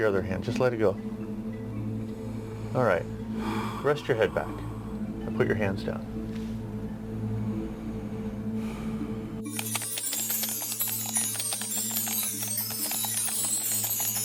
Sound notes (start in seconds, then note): 9.4 chimes ringing